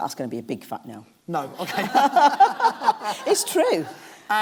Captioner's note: laughs